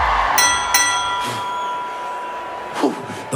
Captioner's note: bell